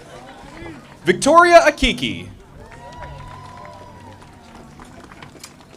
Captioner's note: audience applauding